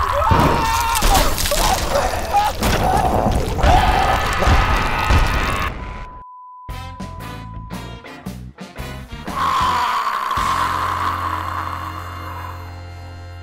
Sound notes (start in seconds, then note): 0.1 explosion sounds; 3.6 growls